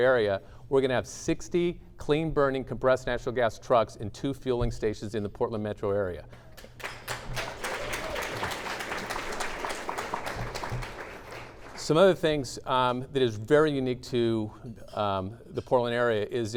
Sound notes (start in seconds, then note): 6.4 clapping